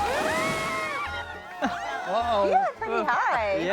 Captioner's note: family cheers